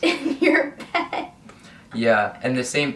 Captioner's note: laughs